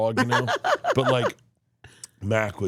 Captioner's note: laughs